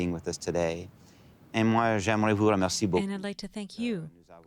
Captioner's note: speaking French